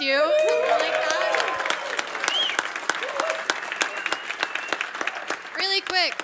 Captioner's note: cheers, applause